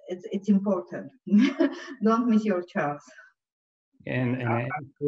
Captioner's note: laughs